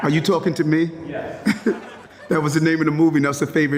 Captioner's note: laughs